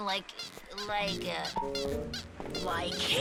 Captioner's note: squeaking